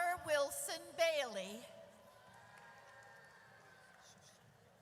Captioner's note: audience cheers